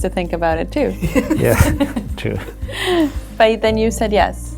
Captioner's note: laughs